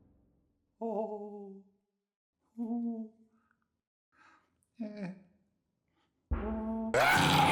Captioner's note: Rudd whimpers; creature screams